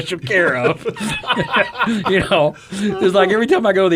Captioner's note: men chuckle